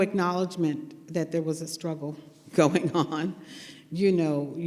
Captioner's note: laughs